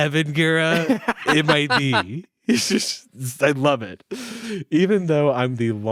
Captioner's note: chuckles